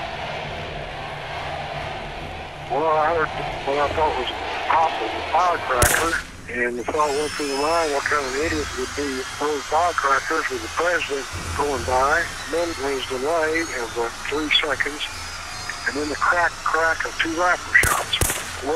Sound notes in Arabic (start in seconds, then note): 0.3 يتحدث الحشد بصوت عالٍ; 5.8 انفجارات طلقات نارية